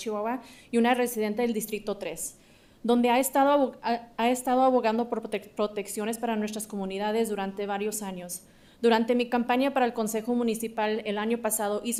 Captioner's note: speaking in spanish